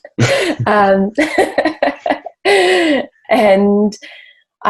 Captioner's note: both laugh